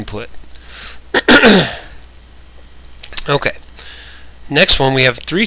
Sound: coughs

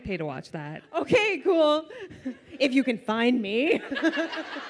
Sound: laughs

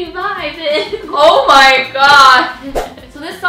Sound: thwip sound

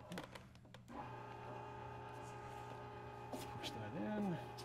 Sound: machine roaring

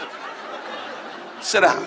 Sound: audience laughs

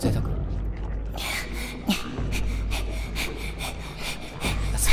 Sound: gasping and panting

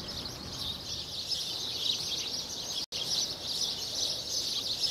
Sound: birds chirping

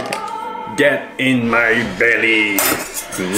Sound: chuckles; moan

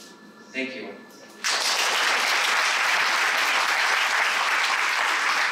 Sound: applause

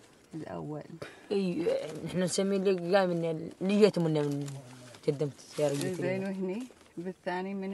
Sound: group speaking in foreign language continues

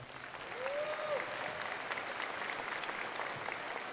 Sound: crowd applauding

